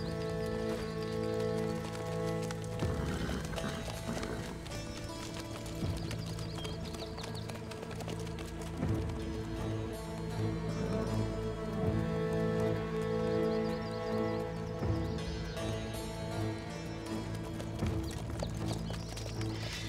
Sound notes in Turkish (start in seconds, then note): 2.9 At kişneme sesi; 6.9 Nal sesleri